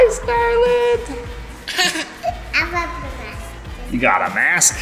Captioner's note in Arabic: يضحك بصوت عال